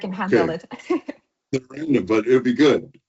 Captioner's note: laughs